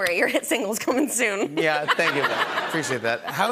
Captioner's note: laughter